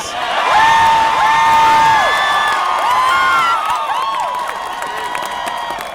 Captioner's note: cheering